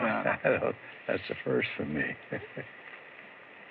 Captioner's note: chuckles